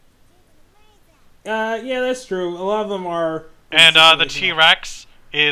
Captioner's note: indistinguishable chatter